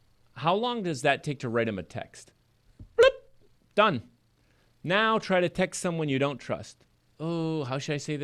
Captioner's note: plurp